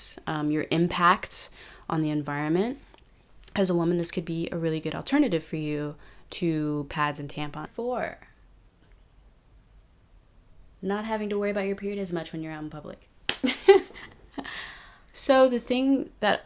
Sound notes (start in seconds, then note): 8.1 talking fast; 13.4 chuckles